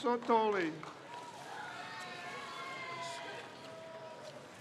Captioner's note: crowd cheers